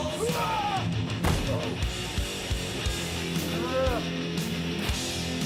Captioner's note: wrestlers crying out; intense rock music continuing